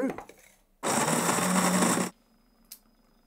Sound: coffee grinding

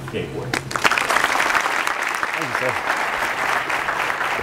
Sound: applause

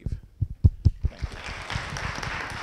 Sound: audience members applaud

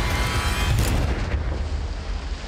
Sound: gunshot

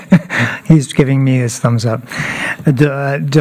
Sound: laughter

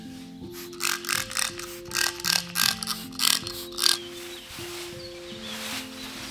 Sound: spraying

